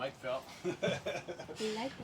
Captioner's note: male voice laughing